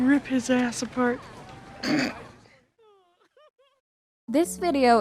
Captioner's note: laughs